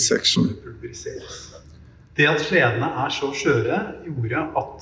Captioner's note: non-english speech